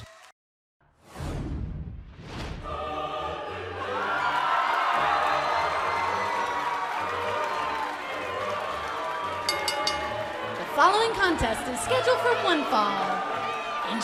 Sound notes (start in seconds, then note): 3.4 crowd cheering; 9.4 bell ringing